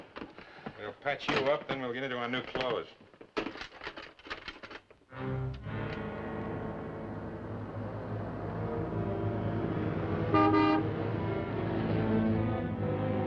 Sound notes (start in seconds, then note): 9.9 horn honks